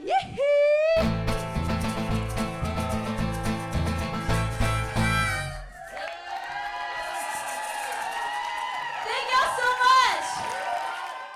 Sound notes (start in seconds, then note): 6.5 cheers and applause